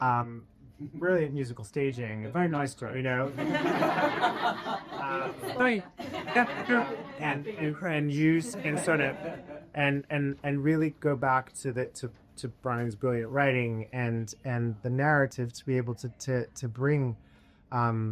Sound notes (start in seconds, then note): 3.2 laughter